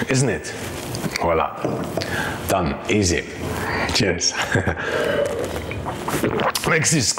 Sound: laughs

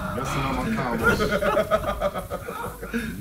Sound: laugh

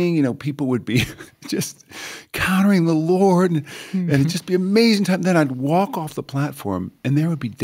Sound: chuckle

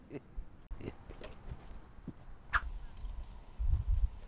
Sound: chuckling

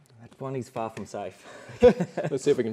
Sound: laughter

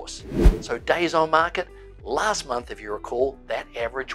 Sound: air whooshing

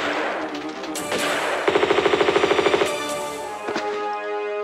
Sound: bratatatatatatatata

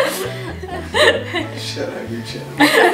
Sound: laughter

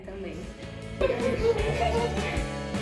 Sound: laughs

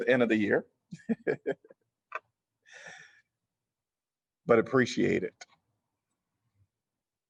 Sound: laughter

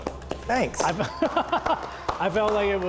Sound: clapping; laughing

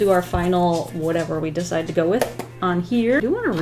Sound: tap, tap

